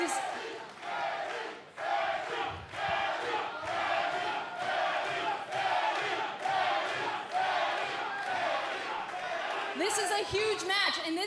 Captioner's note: fans chanting